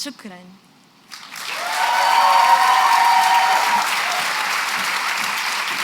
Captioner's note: non-english; cheering and applause